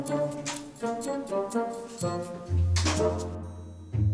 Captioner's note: object clacks